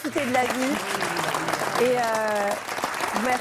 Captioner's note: applause